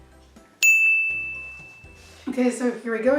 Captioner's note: ding